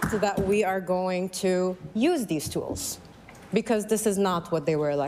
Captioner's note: applause